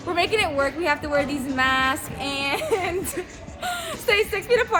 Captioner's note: laughs